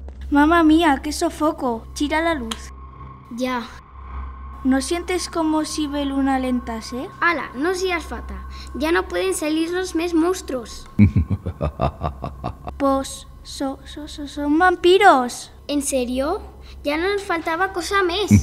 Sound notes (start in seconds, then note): 11.0 mysterious laughs